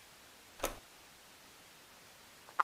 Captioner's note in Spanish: click